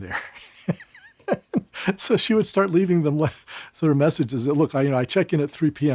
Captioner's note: laugh